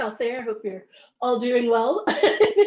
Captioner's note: laughs